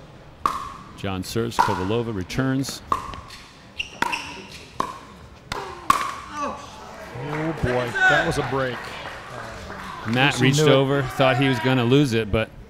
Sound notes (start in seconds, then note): 2.6 ball bouncing; 7.0 audience applauding